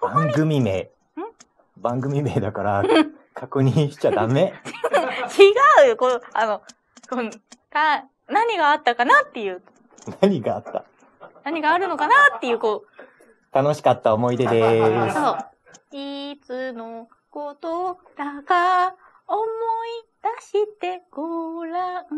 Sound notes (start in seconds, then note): 3.4 laughs; 10.1 laughs